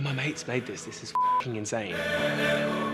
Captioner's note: beep